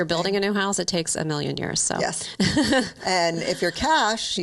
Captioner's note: giggles